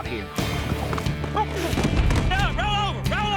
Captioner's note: horse tumbles